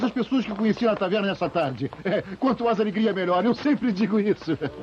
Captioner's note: chuckling